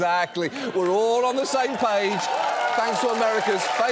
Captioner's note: audience applauding